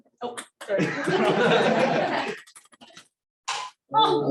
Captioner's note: laughter